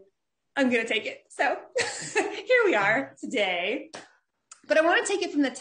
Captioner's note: laughs